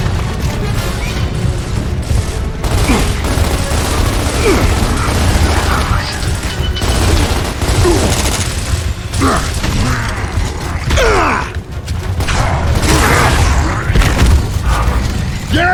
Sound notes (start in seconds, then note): 0.2 tense music; 2.6 guns booming; 3.9 avatar grunting; 4.3 guns booming; 10.9 avatar grunting; 11.9 gun booming; 12.1 monster grunting